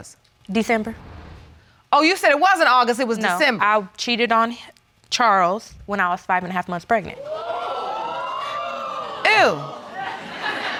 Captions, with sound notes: December. Oh, you said it wasn't August, it was December. I cheated on Charles when I was five and a half months pregnant. (AUDIENCE EXCLAIMS) Ew.